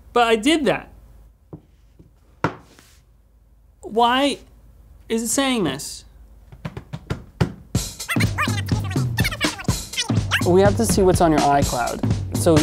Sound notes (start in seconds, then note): 6.5 hands hitting the table